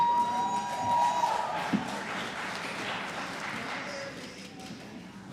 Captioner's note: applause